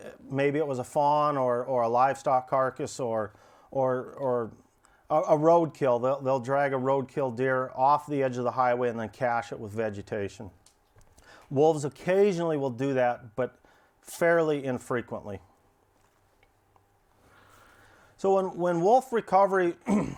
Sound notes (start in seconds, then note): 2.9 stammers; 19.8 clears throat